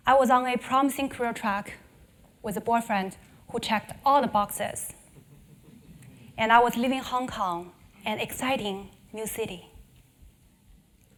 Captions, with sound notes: I was on a promising career track with the boyfriend who checked all the boxes. >> [LAUGH] >> And I was living in Hong Kong, an exciting new city.